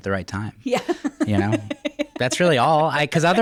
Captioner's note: laughs